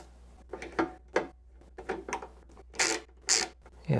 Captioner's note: ratchet noises